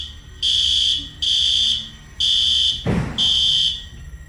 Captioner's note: alarm blaring